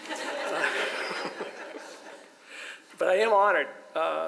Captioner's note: audience laughs